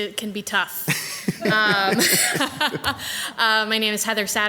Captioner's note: people laughing